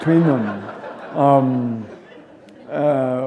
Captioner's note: laughter